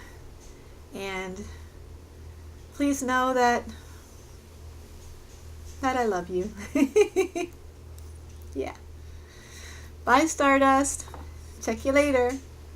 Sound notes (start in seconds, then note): 6.6 laughter